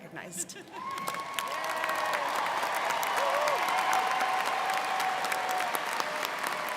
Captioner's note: students cheering and applauding